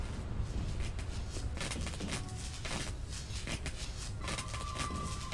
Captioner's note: footsteps